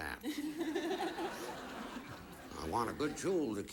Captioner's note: audience laughing